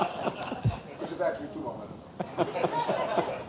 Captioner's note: laughing